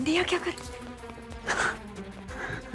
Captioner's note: Sakshi exhales